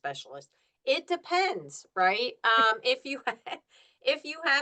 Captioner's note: laughs